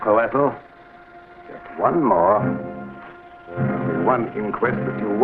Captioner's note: serpent hissing